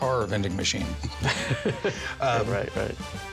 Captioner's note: laughter